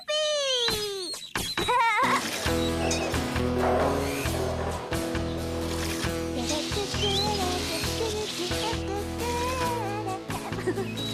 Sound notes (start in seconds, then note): 1.6 giggling; 3.9 roller Clanking; 7.1 mixer Whirring